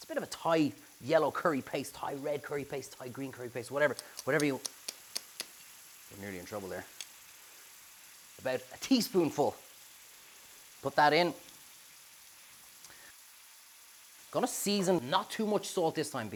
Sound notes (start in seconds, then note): 4.0 taps curry jar